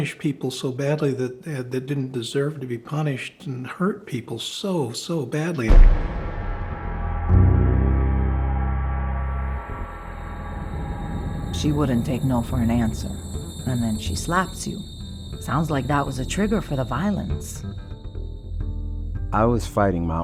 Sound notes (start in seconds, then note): 8.2 bars slam; 9.2 dramatic underscoring